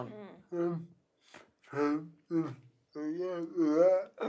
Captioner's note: murmurs